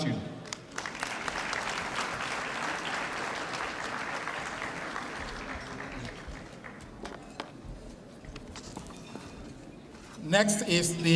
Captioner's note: applause